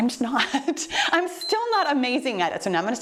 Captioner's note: timer beeps